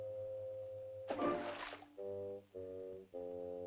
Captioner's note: whimsical music; water splashing; whimsical music